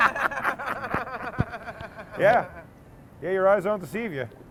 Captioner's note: laughter